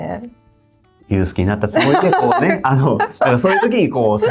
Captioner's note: laughs